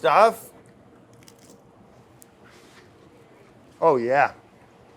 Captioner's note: chip crunches